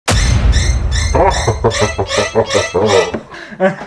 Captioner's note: spooky Laughter